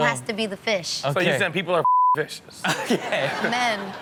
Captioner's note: beep